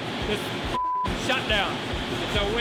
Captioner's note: beep